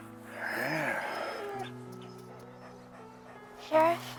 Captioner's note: Buck whining